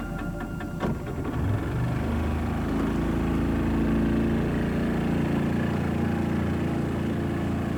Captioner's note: engine rumbling